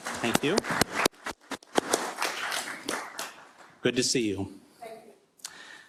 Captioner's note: applause